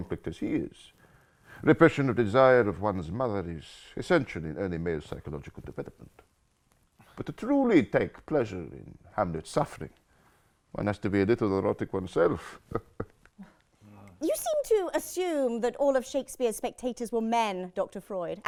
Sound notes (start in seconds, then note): 12.6 chuckles